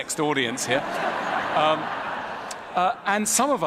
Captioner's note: ضحك